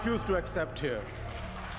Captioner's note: applause